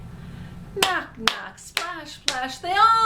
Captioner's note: claps